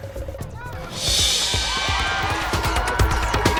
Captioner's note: crowd cheering; upbeat music